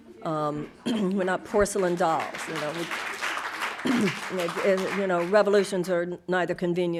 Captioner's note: audience applauding